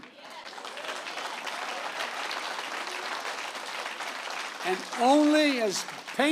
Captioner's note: applause